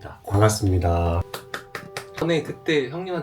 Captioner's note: claps